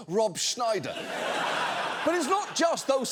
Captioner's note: audience laughing